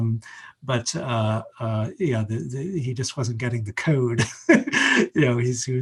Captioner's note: laughs